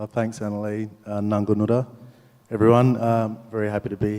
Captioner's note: speaks native language